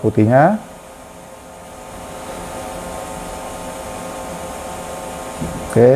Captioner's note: printer machine noise